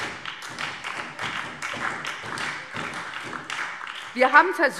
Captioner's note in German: Beifall